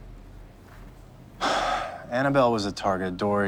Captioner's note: sighs